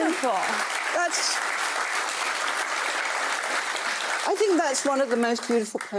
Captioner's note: audience applauding